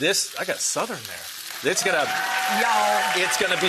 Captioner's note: audience clapping